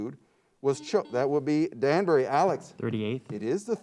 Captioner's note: buzzer beeps